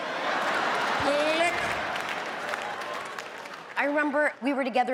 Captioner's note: audience laughs